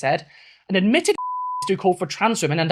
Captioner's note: beep